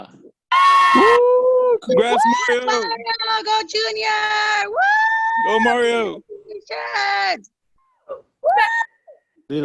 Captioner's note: cheering